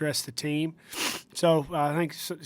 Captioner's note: sniffs